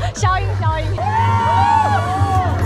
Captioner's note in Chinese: 準備看好戲的歡呼聲